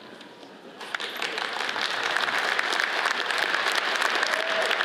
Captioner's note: audience applauds